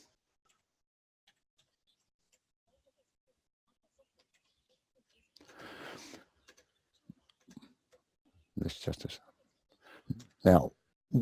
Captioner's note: pause